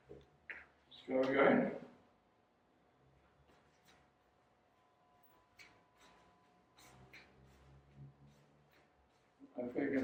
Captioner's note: sound of walking